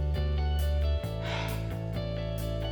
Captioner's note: sighs